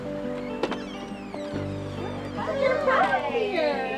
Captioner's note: door squeaking